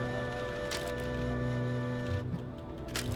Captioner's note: camera clicks